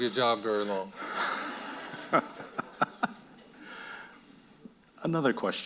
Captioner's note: audience laughing